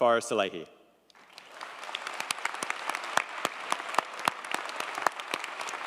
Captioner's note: audience applauding